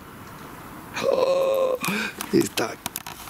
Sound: gasps

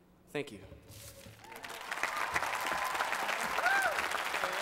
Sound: applause

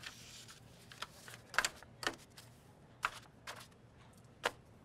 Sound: papers shuffling

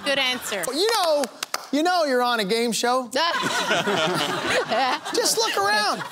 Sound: laughter

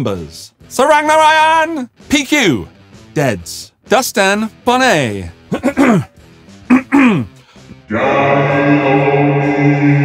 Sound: clears throat; Demonic voice

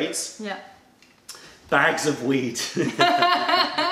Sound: laughter

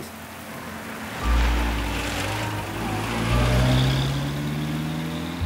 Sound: car engine revving

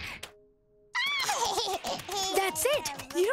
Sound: laughing

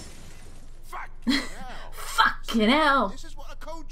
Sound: chuckles

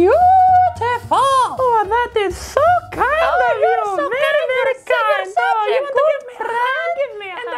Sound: chatter

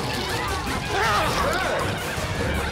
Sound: shrieking

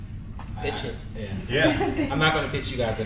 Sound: panel laughs

